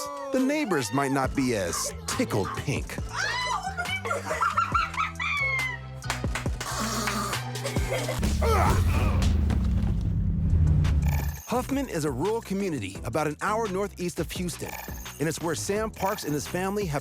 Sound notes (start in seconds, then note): 2.0 laughter; 6.5 rasps, coughs